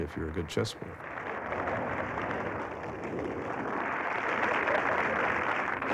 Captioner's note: applause